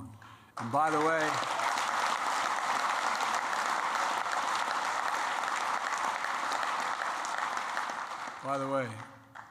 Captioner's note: applause